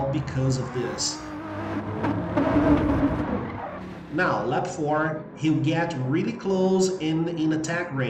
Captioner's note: engines revving, cars noises